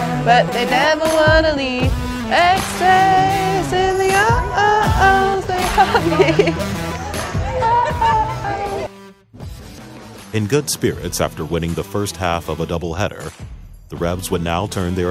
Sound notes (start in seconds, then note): 0.0 electronic music; 5.1 giggles